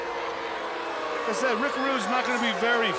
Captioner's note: crowd boos